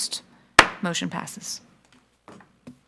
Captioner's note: gavel clacks